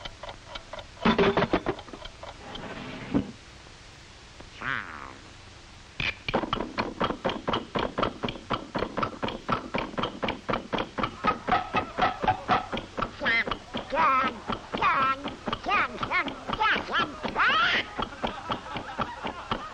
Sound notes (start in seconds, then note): 6.3 loud ticking as drawer rattles